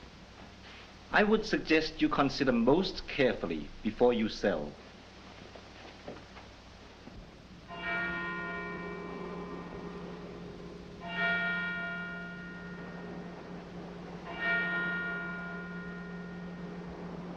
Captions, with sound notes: I would suggest you consider most carefully before you sell. [church bell tolling]